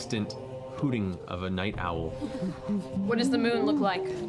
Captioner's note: owl hooting